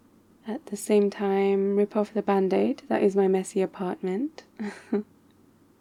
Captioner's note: laughs